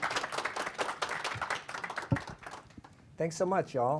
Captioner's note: applause